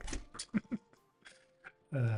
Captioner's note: laughs